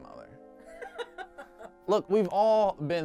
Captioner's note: background laughter